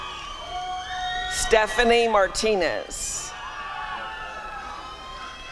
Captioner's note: applause and cheering